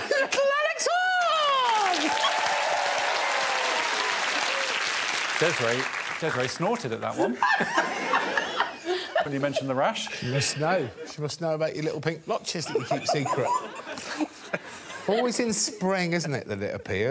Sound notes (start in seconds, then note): 0.0 guests laughing; 1.2 audience applauding; 7.1 audience laughing